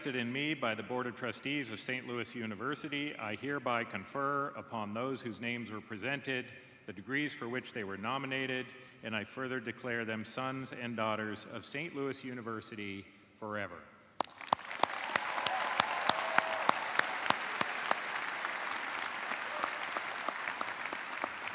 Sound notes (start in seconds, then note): 10.2 cheers and applause